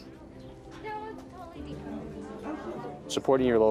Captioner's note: people chattering